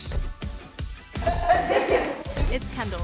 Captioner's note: laughter